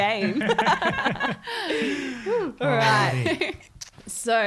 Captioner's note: all laughing